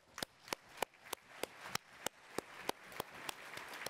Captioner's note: attendees applauding